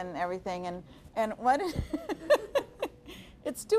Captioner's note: laughing